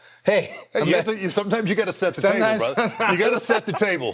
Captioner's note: laughing